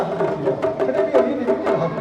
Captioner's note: speaking in foreign language